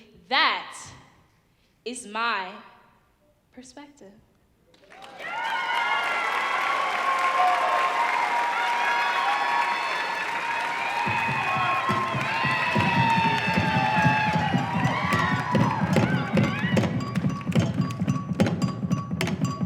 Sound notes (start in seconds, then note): 5.0 audience cheering; 12.4 drums